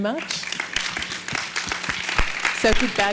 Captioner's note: audience applauding